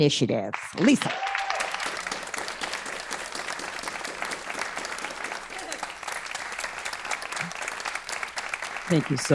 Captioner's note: applause